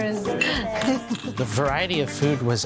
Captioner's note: glasses clinking